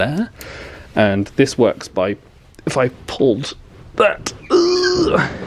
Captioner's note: grunting